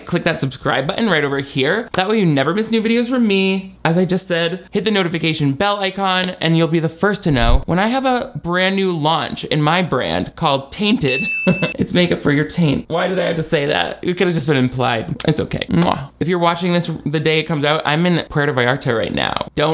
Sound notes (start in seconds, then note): 11.4 laughs